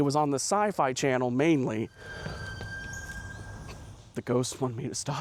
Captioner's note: eerie brake squeal in the distance